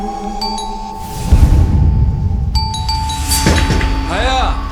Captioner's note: the bell suddenly rings